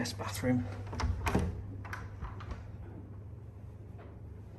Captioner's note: door clunking